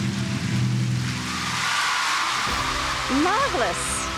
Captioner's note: crowd cheering